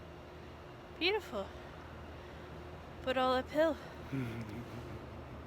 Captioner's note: laughs